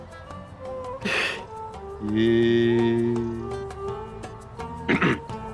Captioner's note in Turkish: Ağlama sesi